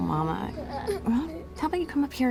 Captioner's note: children straining, grunting